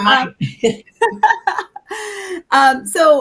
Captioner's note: both laughing